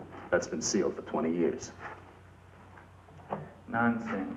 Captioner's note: none